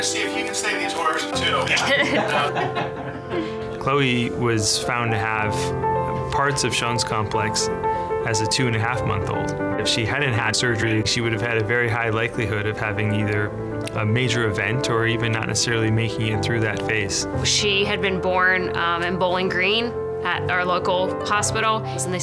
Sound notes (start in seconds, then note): 1.6 people laughing